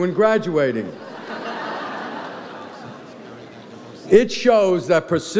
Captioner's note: audience laughs